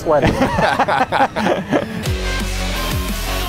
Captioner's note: laughter; intro music playing